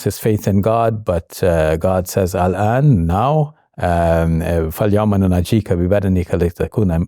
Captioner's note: speaking in foreign language